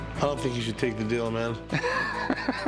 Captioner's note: laughs